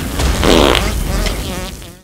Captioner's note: intense fart noises